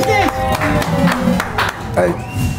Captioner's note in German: Applaus